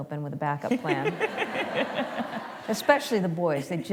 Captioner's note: laughter